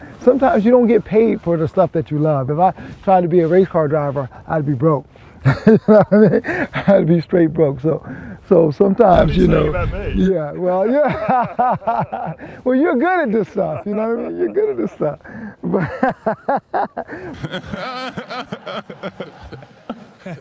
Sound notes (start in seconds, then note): 5.4 laughs; 10.9 both laughing; 15.8 laughing; 17.6 man laughing